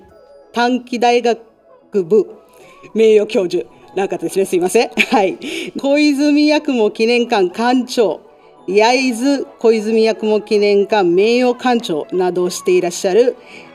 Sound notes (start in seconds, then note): 4.8 laughs